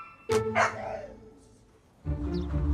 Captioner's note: upbeat music; dog barks; gentle reflective music